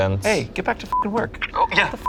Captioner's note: beep